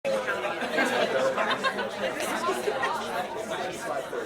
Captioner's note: ambient chatter